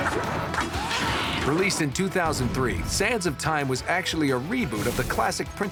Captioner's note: fighting sounds